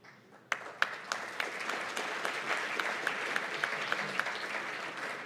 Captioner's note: applause